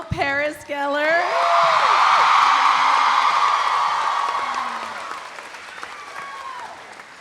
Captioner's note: audience applauding; audience cheering